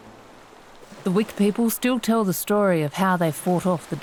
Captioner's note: seabirds calling and waves splashing